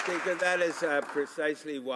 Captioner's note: some Applause